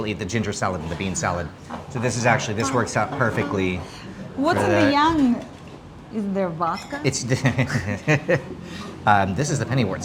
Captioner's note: laughing